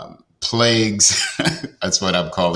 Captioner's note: laughs